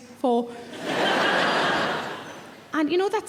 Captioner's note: audience laughing